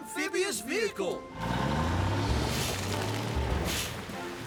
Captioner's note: engine Revs